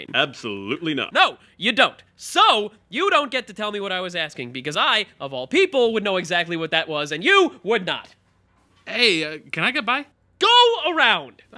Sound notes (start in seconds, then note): none